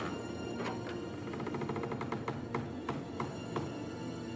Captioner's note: creaking